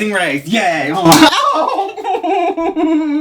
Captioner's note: bitchslap